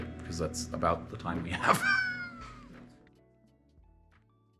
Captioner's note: laughs; gentle music